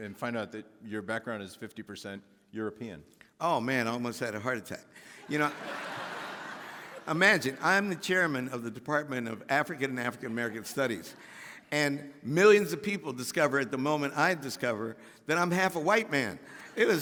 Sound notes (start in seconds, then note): 5.2 audience laughing